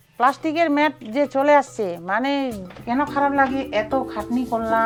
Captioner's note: speaking foreign language